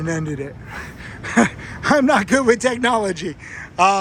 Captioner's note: laughs